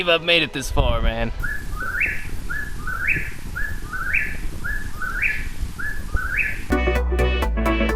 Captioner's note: Whippoorwill bird makes a loud calls